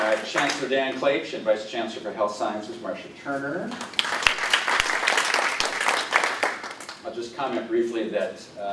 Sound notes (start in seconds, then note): 3.7 applause